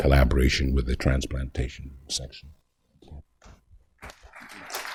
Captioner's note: applause